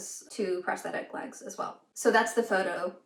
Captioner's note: none